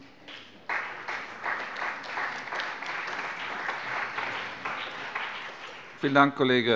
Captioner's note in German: Beifall bei der CDU und dem BÜNDNIS 90/DIE GRÜNEN